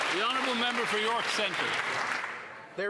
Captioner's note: applause